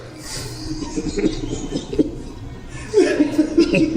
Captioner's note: giggling